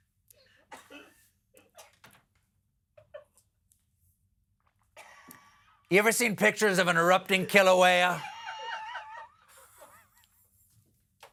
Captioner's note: laughter